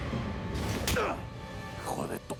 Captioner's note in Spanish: ruido de golpe